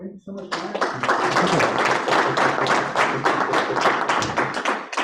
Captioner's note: audience claps